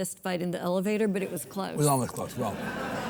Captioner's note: audience laughs